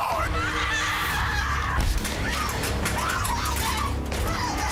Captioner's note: screams